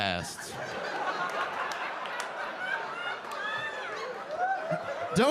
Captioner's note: audience laughing